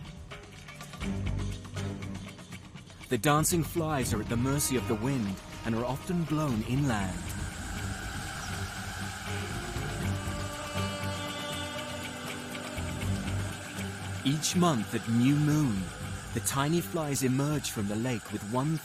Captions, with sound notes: The dancing flies are at the mercy of the wind, and are often blown inland. (insects buzzing) (dramatic music continues) Each month at new moon, the tiny flies emerge from the lake with one thing on their mind.